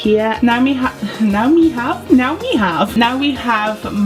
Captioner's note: laugh